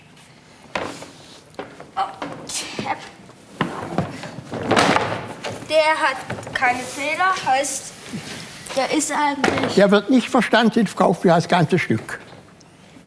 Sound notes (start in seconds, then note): 2.0 groan